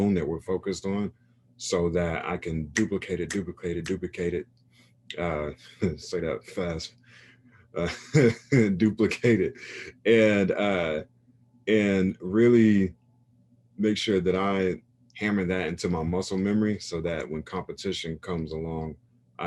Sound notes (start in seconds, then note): 2.1 snaps; 7.8 chuckles; 7.8 laughs